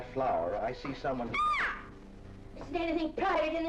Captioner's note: screams